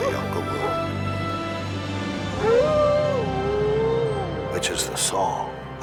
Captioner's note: dramatic music swells; Buck howling